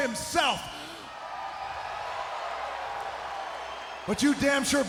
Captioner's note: crowd cheering